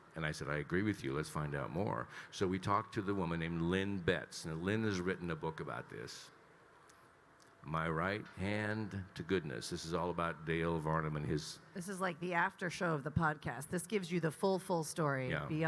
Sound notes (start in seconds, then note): none